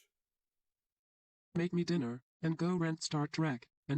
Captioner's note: imitating Ava